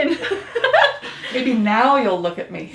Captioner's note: laughing